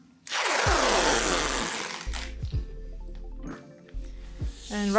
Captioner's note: duct tape crackling